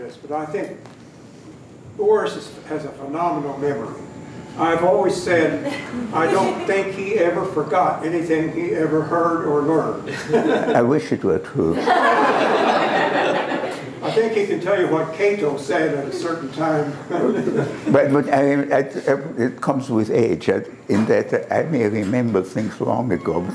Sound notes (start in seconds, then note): 11.7 laughter